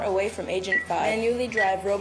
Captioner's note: beeping